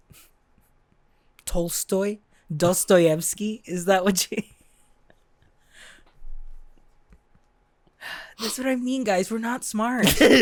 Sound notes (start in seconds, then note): 7.6 sigh